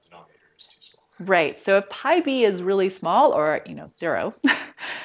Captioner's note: laughter